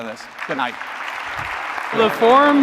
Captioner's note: applause